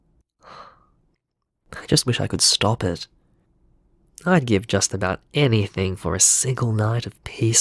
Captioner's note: sigh